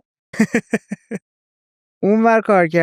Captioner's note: laughs